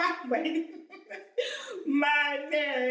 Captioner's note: giggles; gasp